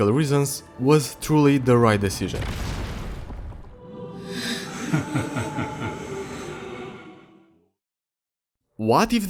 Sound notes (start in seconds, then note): 4.4 Dormin laughing